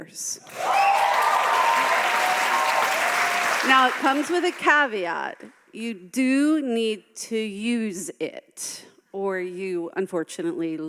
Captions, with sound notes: (audience applauding) Now it comes with a caveat, you do need to use it or you unfortunately lose it,